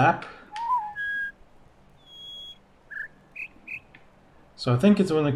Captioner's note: bird warbling ˩˧˩ ˥; bird chirps four notes